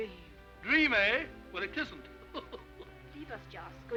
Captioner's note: laughs